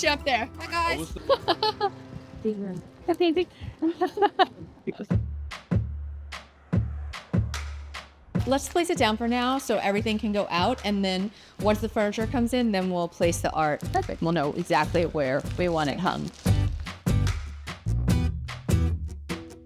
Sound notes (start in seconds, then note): 1.0 both laughing; 5.2 soft upbeat music; 16.3 soft upbeat music